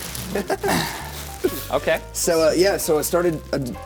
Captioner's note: laughing